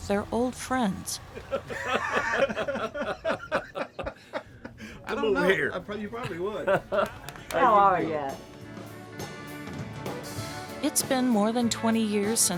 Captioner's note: laughter